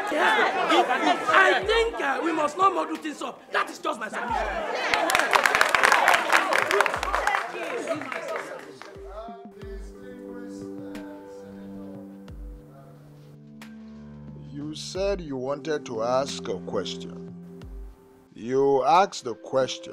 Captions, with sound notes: I think we must now model things up. That is just my suggestion. [Applause] And distinguished senators… You said you wanted to ask a question, you asked the question